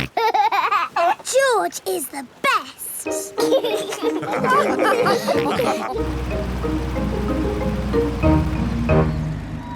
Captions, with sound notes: (SNORTS AND LAUGHS) George is the best! (ALL LAUGH)